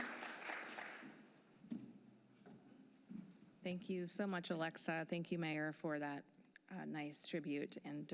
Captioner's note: applause